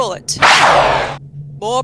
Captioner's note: gunshot, with ricochet